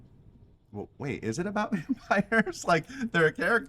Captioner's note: laughs